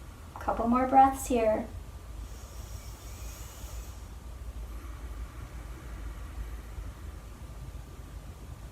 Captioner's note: breathing